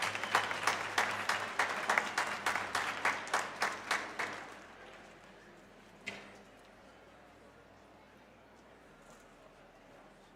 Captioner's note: applause